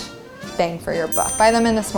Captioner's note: ding